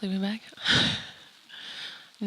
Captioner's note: chuckles